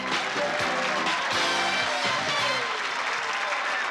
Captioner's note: applause and cheering